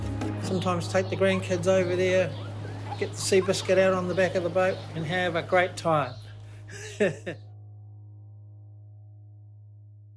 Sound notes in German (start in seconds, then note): 6.3 lacht